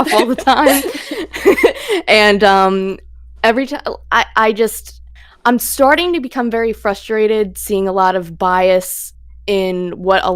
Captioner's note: laughs